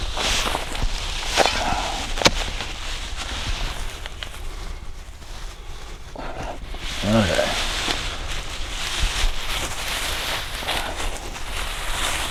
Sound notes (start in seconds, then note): 1.3 grass rustling; 9.5 grass rustling